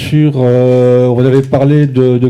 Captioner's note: speaking in French